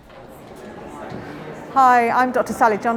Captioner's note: people chattering